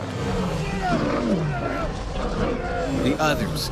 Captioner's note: yelling and growling; voiceover